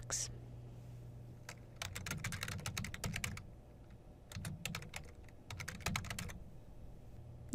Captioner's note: typing